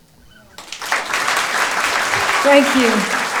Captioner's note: applause